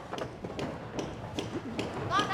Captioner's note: hammering in distance